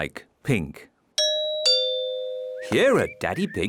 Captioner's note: doorbell rings